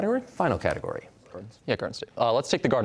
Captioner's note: quietly